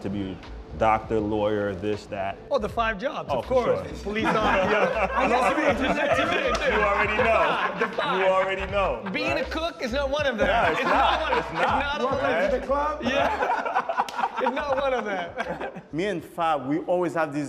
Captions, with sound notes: to be doctor, lawyer, this, that. -Oh, the five jobs, of course. -Oh, for sure. [ Laughter ] Police officer... [ Laughter continues ] You already know. -The five. -You already know, right? Being a cook is not one of them. -No, it's not. It's not, right? -It's not one. It's... Welcome to the club. -Right? -Yeah. It's not one of them. Me and Fab, we always had this --